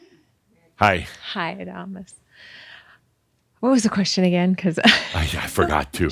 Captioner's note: she chuckles